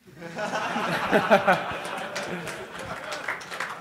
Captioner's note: laughter; applause